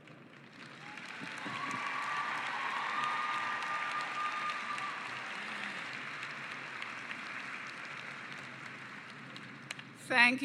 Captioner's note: cheering and applause